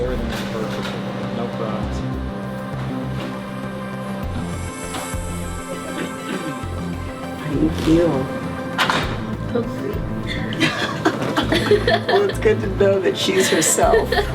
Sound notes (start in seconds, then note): 10.3 laughter; 14.1 laughs